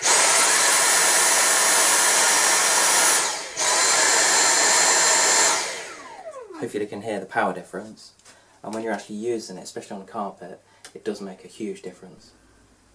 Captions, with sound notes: Wooosh (noise of vacuum on high power) Wooosh (vacuum sound on low power mode) Hopefully you can hear the power difference and when you are actually using it, especially on a carpet, it does make a huge difference.